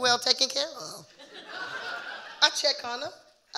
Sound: audience laughing

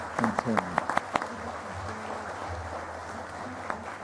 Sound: applause

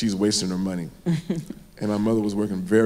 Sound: chuckles

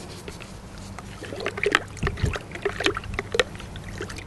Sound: water sloshing

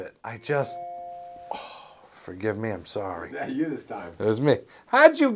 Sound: phone's notification

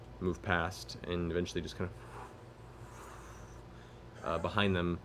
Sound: imitates wind

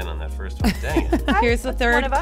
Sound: laughing

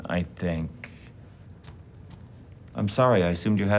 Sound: keyboard clicks

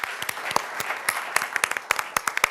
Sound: applause

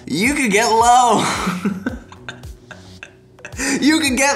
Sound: laughing

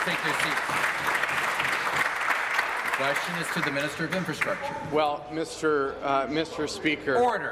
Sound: applause

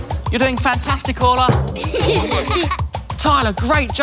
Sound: giggling

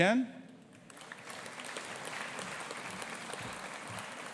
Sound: audience applauding

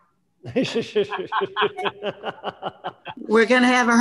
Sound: crowd laughing

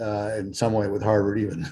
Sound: laughs

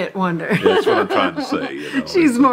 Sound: woman laughs

